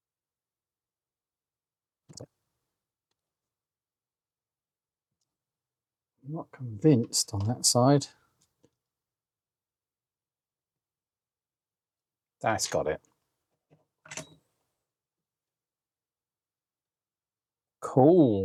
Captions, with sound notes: (Silence) I'm not convinced on that side. (Silence) That's got it. (Silence) Cool!